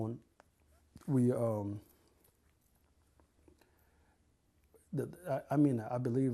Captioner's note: pauses for 3 seconds